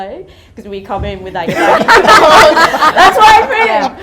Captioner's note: audience laughter